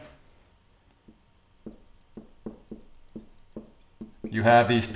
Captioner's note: marker tapping